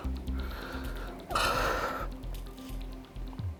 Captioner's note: breathes heavily